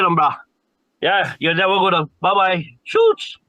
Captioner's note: speaking foreign language